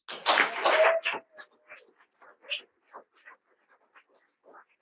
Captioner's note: audience applauding